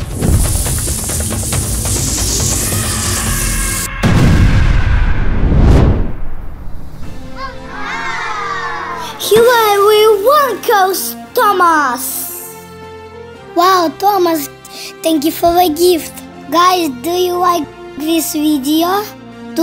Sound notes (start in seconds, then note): 5.0 explosion sound; 11.5 confetti sound